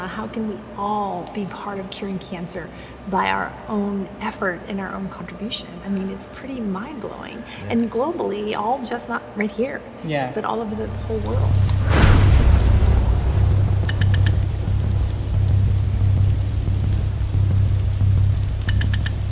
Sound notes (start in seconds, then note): 12.4 thunder and rain; 16.5 dramatic music